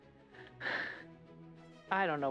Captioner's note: wry chuckle